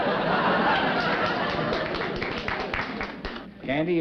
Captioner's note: chuckling; applause